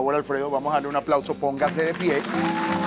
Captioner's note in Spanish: Aplausos